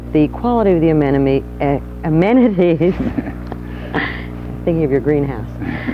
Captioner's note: both laughing